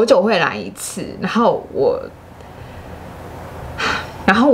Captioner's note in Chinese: 嘆氣